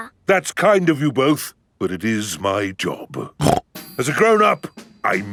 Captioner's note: snorts